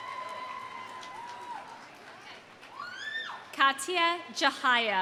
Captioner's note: audience cheering; audience applauding